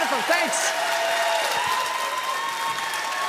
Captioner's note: audience cheers loudly